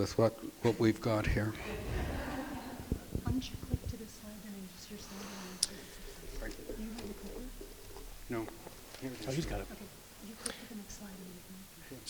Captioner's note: crowd laughs